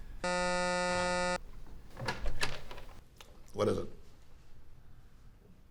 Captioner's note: intercom buzzing